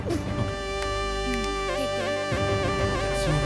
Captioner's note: Snaps finger